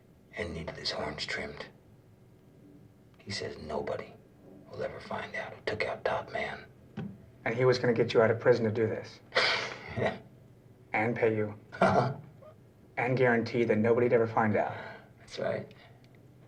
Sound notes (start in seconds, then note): 9.4 laughs